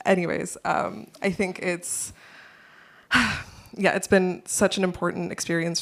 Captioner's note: sighs